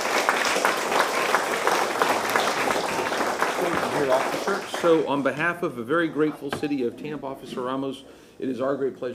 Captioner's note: applause